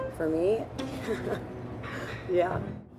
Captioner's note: chuckles